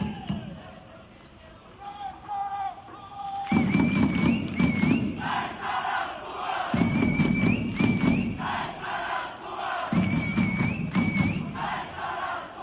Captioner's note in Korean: 짝짝짝짝 짝짝